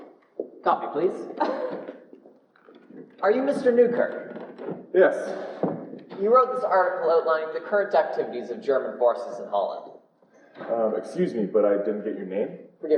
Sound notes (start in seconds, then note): 1.4 laughs indignantly